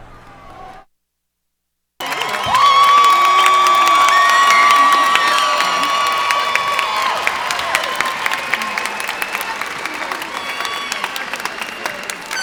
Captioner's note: cheers and applause